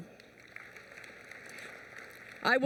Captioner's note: applause